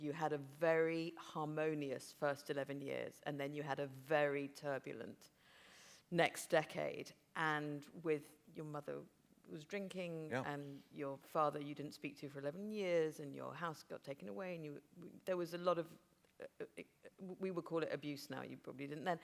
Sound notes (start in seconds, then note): none